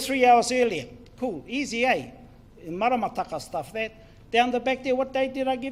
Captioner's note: speaks in foreign language